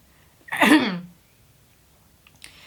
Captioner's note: ahem